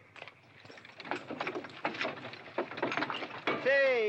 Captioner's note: carriage rattling